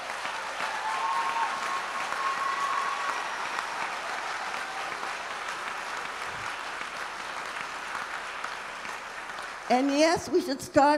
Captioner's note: applause